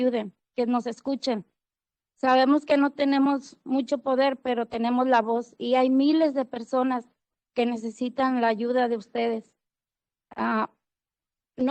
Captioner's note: speaking Spanish